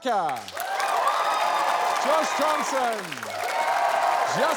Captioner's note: cheering